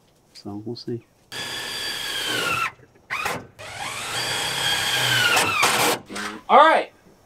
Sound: drilling

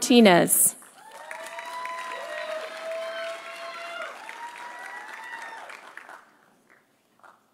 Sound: audience applauding; audience cheering

